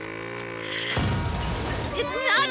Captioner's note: crashing